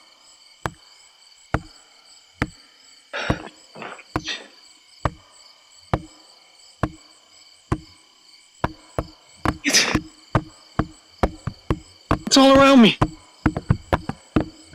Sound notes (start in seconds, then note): 0.6 footsteps crunching